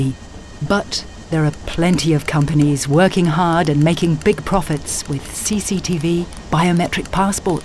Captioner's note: German